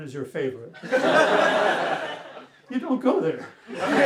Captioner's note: laughter; laughter